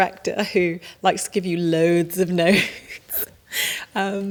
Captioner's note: laughing